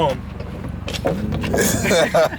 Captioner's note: thuds; laughs